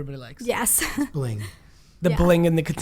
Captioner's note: laughs